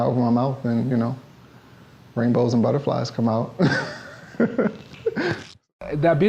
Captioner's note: laughs